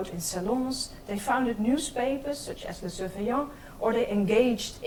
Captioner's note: speaks in foreign language